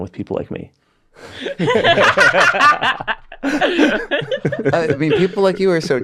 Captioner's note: everybody laughs